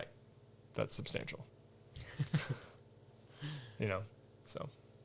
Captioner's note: all laugh